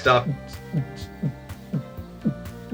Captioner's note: mouths techno beat